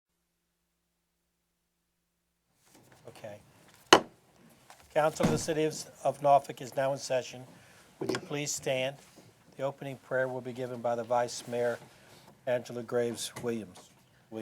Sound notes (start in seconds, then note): 0.0 gavel banging